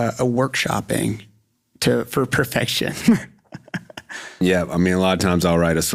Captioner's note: chuckles